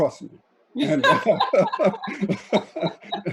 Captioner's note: laughing